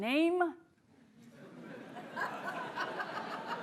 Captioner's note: laughter